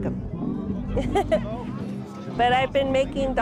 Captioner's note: laughs